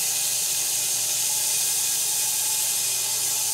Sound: saw whirring

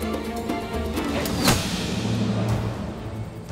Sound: Ok sesi

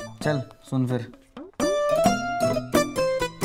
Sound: none

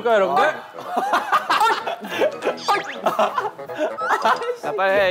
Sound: sounds from his mouth

